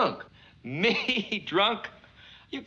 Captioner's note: chuckles